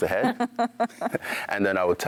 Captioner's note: laughing